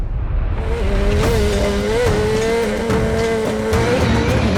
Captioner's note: car engine revving; dramatic music